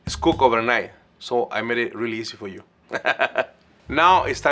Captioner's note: laughs